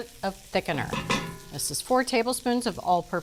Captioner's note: spoon thumping